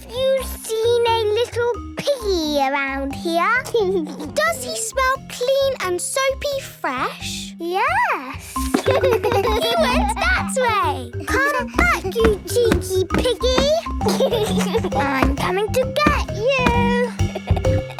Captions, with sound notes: Have you seen a little piggy around here? - Does he smell clean and soapy fresh? - Yes. (giggles) - He went that way! - Come back, you cheeky piggy! I'm coming to get you!